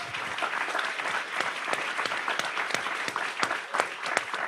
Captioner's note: audience applauds